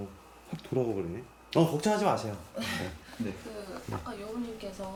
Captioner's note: confident voice